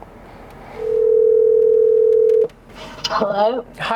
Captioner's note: phone ringing